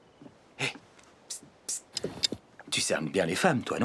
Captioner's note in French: chuchotant